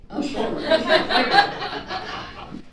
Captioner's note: audience laughing